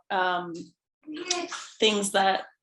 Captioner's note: child playing